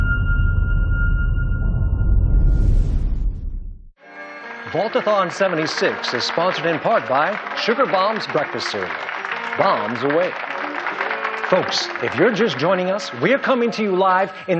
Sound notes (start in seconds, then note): 11.0 polite applause